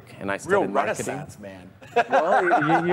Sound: laughs

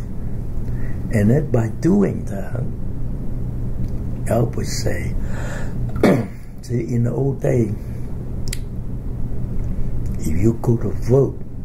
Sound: coughs

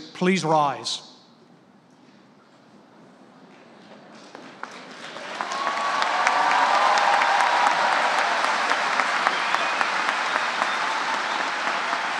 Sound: applause

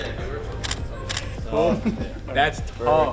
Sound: camera Clicks

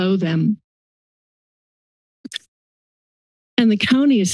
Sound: silence

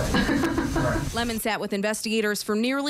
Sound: laughs

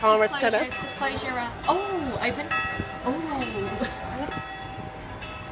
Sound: bell ringing in background

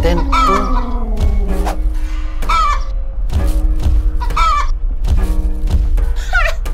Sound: dinosaur clucking

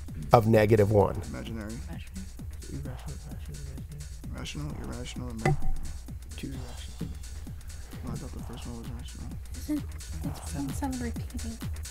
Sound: wispering

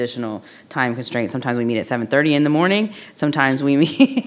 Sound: laughing

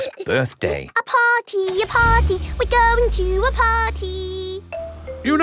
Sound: giggling; sing song voice

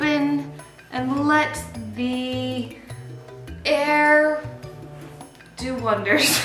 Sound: laughing

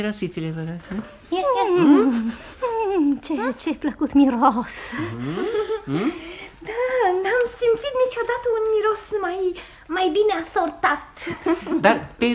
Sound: sniffs

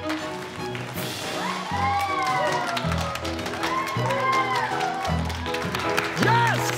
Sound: uproarious applause

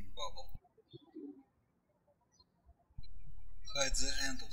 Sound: birds chirping

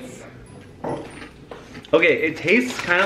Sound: chip crunch

